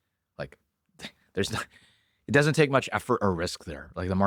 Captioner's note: laughs